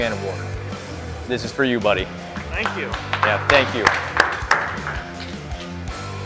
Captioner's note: applause